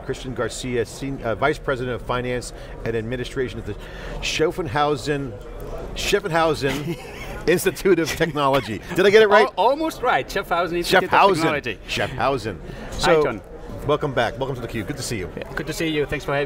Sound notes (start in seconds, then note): 6.6 laughter